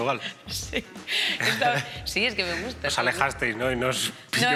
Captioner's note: laughs